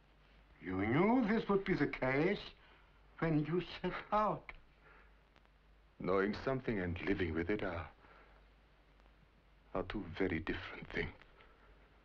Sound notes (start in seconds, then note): 3.7 scoffs